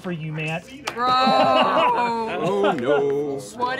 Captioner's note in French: rires